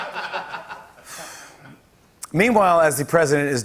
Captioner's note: laughter; sighs